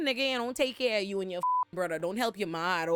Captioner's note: beep